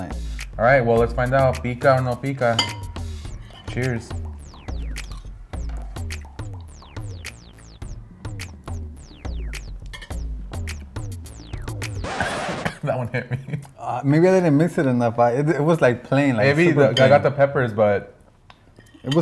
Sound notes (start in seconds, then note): 5.2 techno music; 12.1 coughs